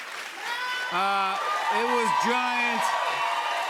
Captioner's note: cheers and applause